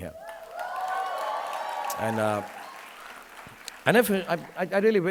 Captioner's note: audience applauding